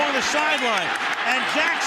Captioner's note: crowd clamoring